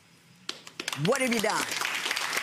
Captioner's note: clapping